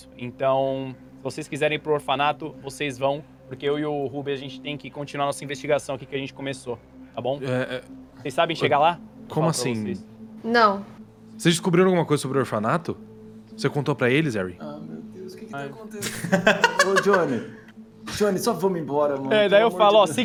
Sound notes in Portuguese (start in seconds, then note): 16.0 Risada